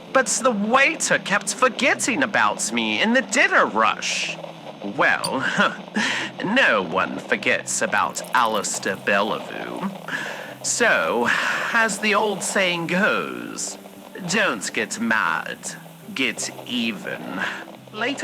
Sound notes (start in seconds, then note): 4.8 cork squeak and pour fx